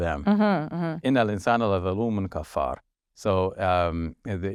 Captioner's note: speaking foreign language